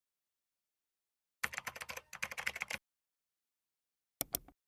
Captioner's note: keyboard clanking